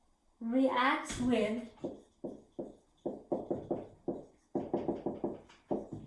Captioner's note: writing Sounds